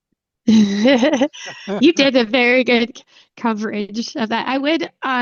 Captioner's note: chuckles